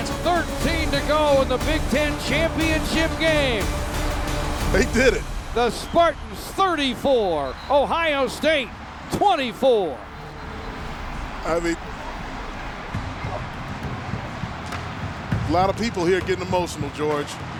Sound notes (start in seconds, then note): 10.2 crowd cheering